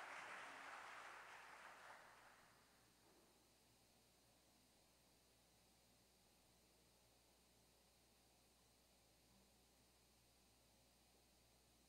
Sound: applause

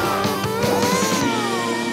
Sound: mooing

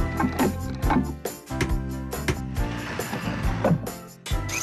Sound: hammer Banging; drill Buzzing

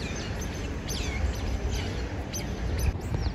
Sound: chirping noises that sound like birds

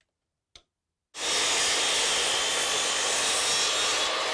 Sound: saw buzzing

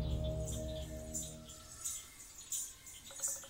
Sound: frogs croaking

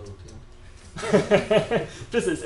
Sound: laughter

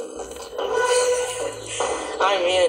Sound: laughing

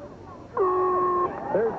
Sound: horn blaring

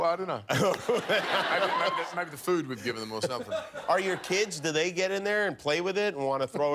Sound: laughter

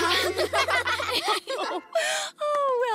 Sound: giggling

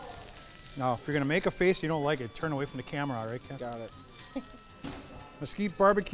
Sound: laughing

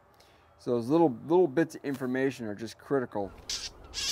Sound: bird squawking

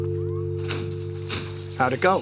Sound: door opens

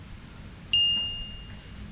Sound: bell rings

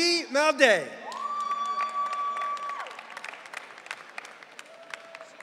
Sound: audience cheering

